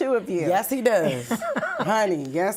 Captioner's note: laughing